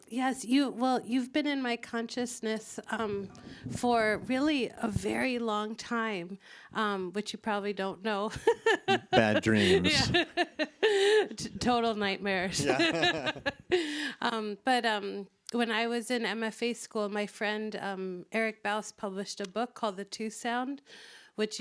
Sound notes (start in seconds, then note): 8.4 laughs